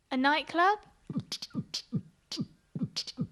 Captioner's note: beatboxing